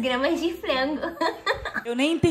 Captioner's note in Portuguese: Risos